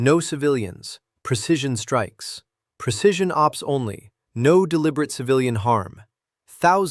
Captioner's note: sarcastic